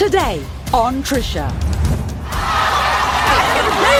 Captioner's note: audience yells